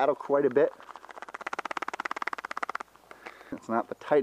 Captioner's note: knife rattling in sheath